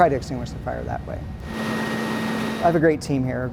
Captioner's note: truck roaring